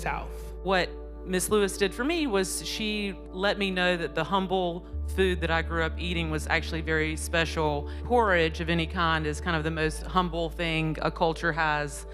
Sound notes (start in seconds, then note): none